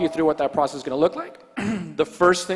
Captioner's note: clears throat